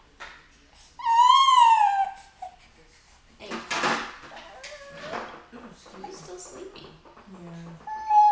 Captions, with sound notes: (loud clashing of items in background) - He's still sleepy.